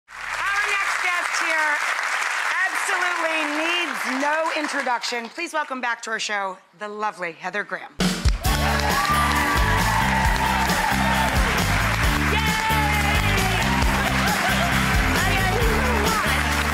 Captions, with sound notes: Our next guest here absolutely needs no introduction. Please welcome back to our show, the lovely Heather Graham. (audience cheering) Yay! Hi, honey!